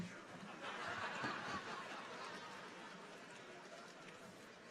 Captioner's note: audience chuckles